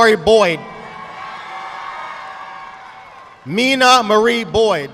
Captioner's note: audience clapping